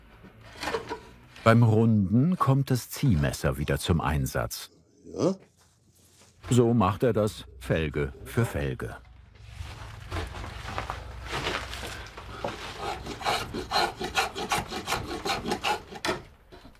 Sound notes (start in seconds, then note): 12.9 scraping